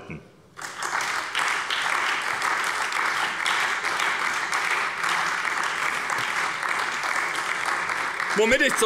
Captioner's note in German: Beifall bei der SPD